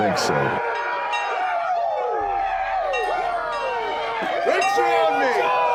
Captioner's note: gang cheering; school bell ringing